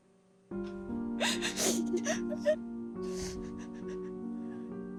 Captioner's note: crying